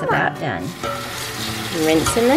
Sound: water running

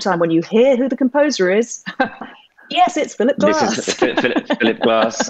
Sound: she laughs

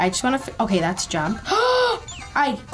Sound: gasps

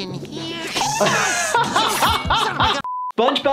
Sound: laughing

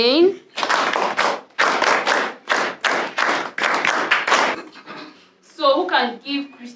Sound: applause

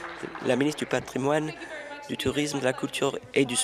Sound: applause

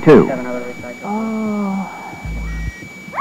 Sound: moaning; screaming

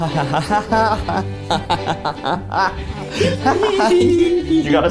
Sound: giggling; bouncy string music

